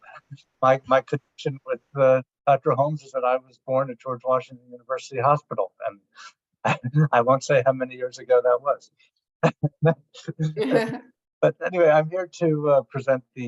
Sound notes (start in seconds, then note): 10.1 laughs